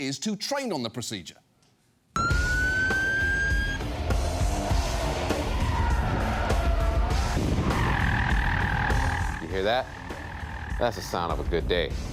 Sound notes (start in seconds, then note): 2.2 sirens blaring; 5.6 tires screeching